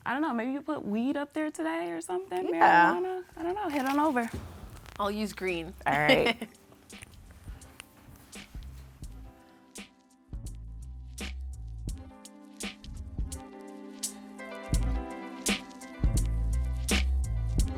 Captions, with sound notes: I don't know, maybe you put weed up there today or something, marijuana. - Yeah. - I don't know. Head on over. - I'll use green. (laughs) - All right. (relaxing upbeat music)